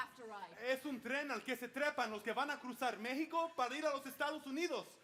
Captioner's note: speaking Spanish